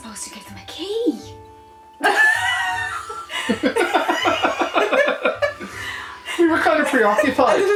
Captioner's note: laughter